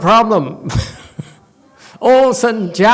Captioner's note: laughs